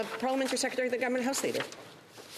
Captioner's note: speaking French